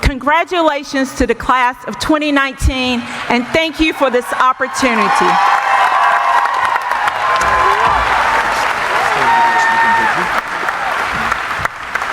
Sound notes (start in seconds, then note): 4.6 audience applauding; 5.6 cheering